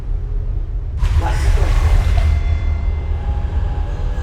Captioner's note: thunderclap